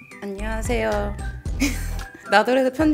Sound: snicker

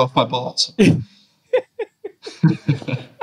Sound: laughing

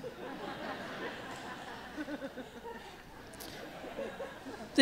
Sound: laughter

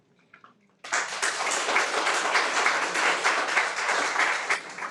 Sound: everyone applauds

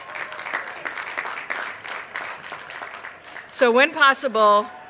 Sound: cheers and applause

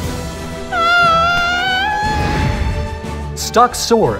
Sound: screams

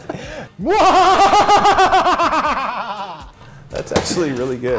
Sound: laugh

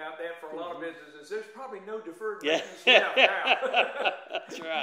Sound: laughter

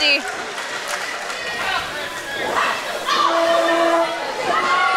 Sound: audience screaming

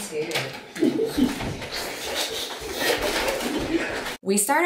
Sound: giggling

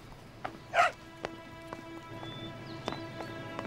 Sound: dog barks

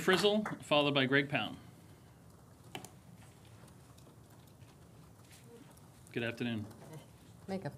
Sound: applause

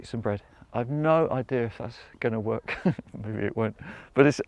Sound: chuckles

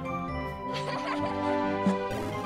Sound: laughter

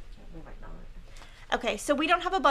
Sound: speaking faintly

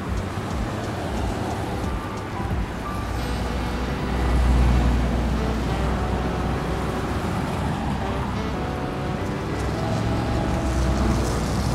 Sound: traffic sounds

